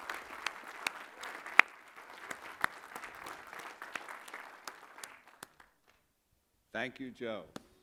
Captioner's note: applause